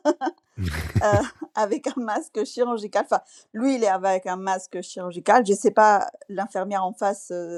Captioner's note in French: rires